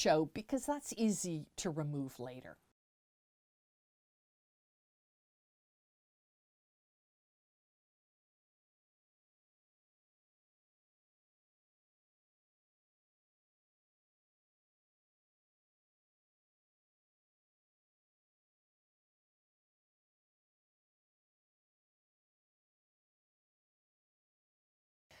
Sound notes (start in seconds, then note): 2.7 no Sound Present